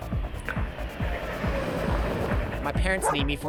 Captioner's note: car revving